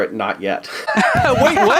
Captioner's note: laughter